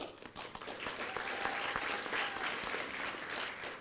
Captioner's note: applause